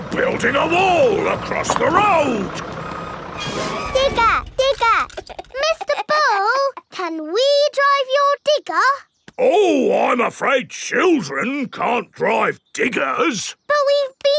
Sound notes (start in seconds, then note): 5.1 chuckles